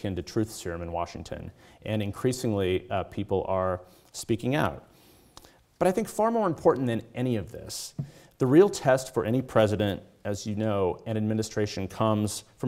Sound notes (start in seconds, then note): none